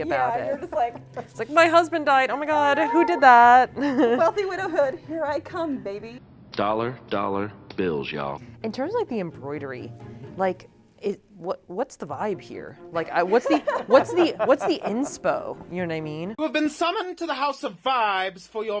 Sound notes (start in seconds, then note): 13.0 laughing